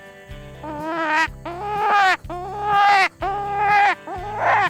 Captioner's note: rabbit call squawking